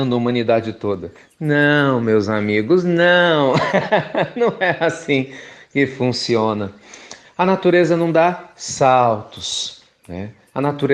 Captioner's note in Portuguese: Risos